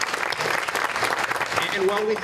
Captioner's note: applause